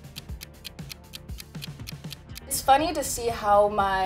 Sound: clock ticks

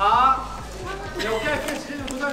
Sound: haha

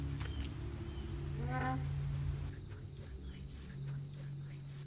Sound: hinge squeaking

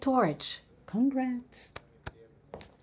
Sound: pats on shoulder

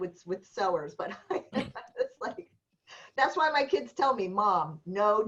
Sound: laughter

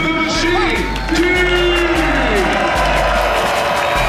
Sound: crowd cheering; upbeat music

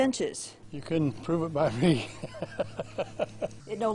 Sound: laugh

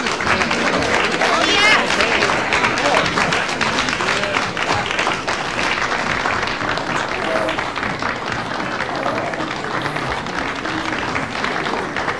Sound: shouts of praise, applause

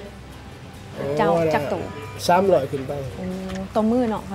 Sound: woman and man speak local language

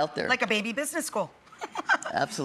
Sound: chuckles

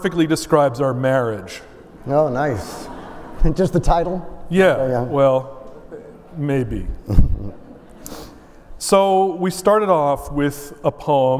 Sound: laughter

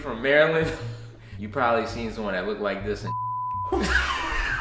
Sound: beep

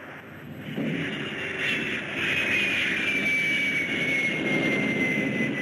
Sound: explosion roaring; plane whistling

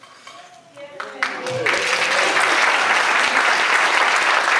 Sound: audience applauds

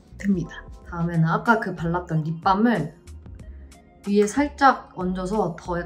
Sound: speaking in Korean

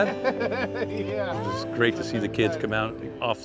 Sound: laughing

